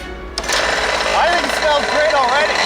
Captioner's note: RC engine cranking